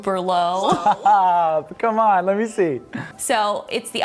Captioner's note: laughs